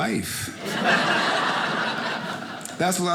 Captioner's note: audience laughing